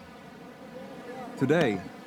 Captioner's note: men shouting